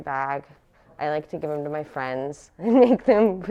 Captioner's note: chuckles